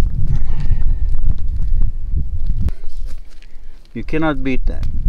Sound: wind blows

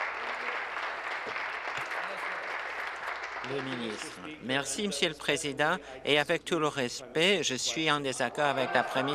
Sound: applause

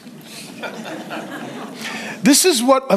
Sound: congregation laughs

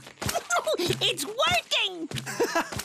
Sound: giggling

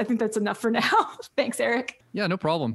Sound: laughs

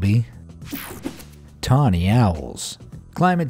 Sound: electricity buzzing

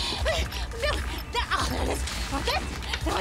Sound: frenzied panting

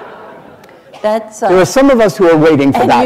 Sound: laughter

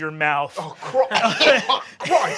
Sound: shouts; coughs

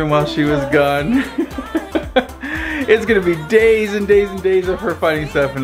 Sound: laughs

